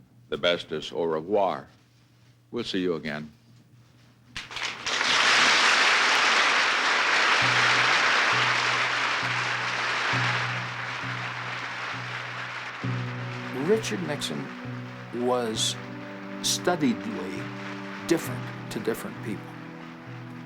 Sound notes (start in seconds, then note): 4.4 applause